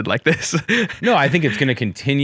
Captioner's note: laughs